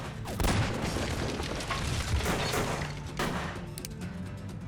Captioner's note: gunshots banging